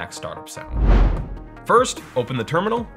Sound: whooshing

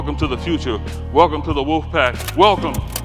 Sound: slide clicks

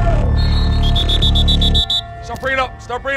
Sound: whistles

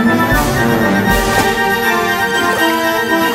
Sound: water splash sound; bubbling sound

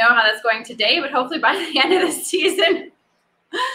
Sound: laughs

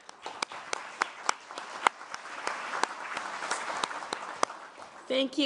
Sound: applause

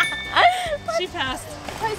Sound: chime; laughing

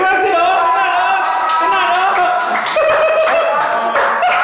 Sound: laughing

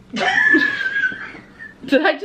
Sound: both laughing

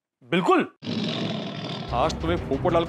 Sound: tiger roaring

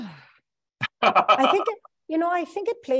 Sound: sighs; laughing

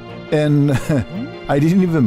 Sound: giggles

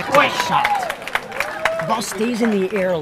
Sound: audience clapping and cheering

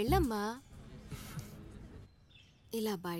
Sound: chuckles

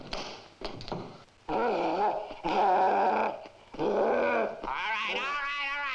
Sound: body thudding; gorilla grunting

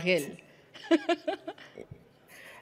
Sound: laughing

